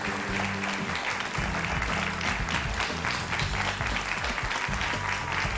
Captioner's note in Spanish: Aplausos